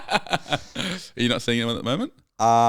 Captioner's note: laughing